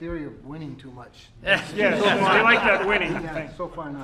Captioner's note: laughter